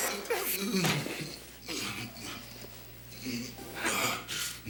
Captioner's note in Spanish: Respiração pesada